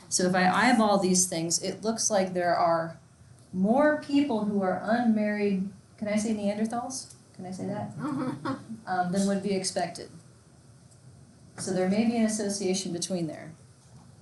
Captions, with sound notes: So if I eyeball these things, it looks like there are more people who are unmarried can I say neanderthals, can I say that, (student laughs) than would be expected. So there may be an association between there.